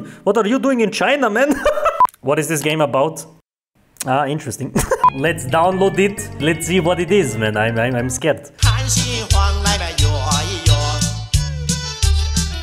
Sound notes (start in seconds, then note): 1.8 laughs; 4.9 laughs